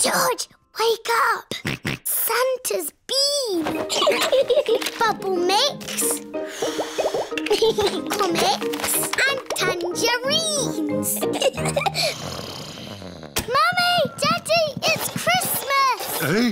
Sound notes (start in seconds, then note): 1.7 snorts; 3.9 both laugh; 11.2 both giggling; 11.9 snoring